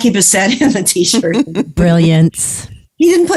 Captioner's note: laughs; guffaw